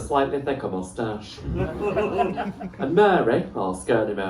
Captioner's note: laughter